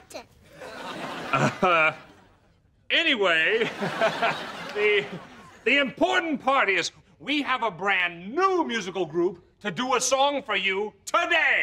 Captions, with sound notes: Uh. Anyway, [chuckles] the- the important part is, we have a brand new musical group to do a song for you today.